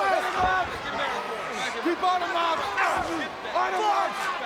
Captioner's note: people yelling